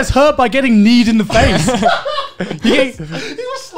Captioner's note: laughing